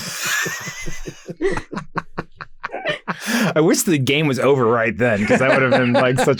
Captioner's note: laughs